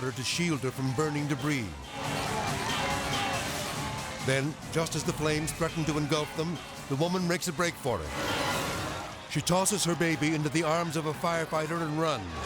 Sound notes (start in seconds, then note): 1.6 tense music; 1.8 people clamoring; 12.2 tense music